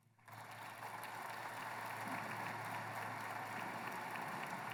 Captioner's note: applause